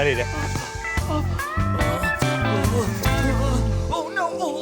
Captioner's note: Dale moaning